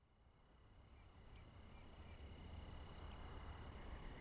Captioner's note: crickets chirp